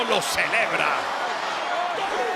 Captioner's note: applause